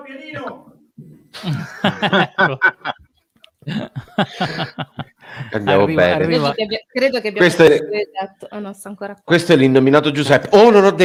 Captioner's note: laughs